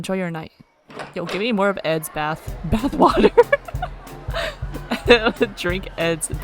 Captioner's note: laughs